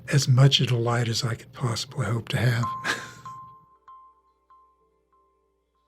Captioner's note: laughs